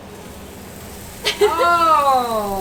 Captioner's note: both laugh